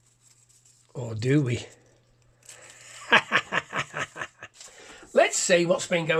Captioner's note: laughs